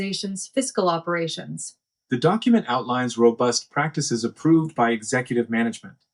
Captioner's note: male Voice